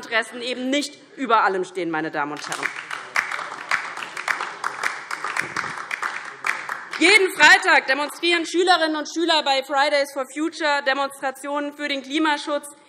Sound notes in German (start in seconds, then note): 2.3 Beifall DIE LINKE